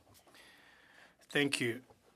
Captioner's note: speaking French